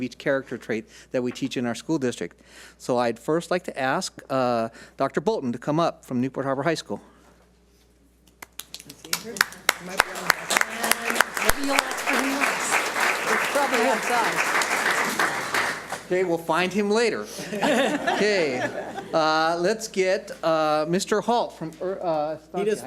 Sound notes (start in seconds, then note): 10.3 audience applauds; 17.3 audience laughs